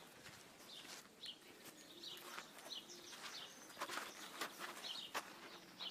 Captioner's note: chirping